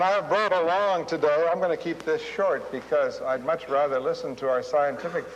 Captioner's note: audience laughing